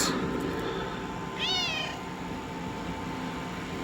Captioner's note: meows